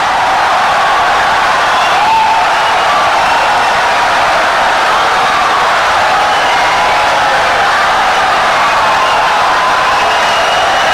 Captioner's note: wild applause and cheering for 17 seconds